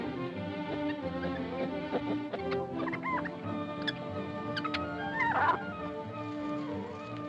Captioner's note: dramatic music; monkey noises; dramatic music